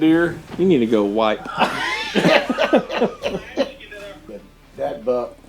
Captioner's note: laughing